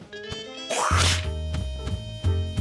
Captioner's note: spits